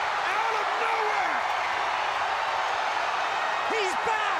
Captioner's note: audience cheering